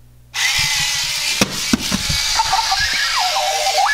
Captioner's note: clock warbling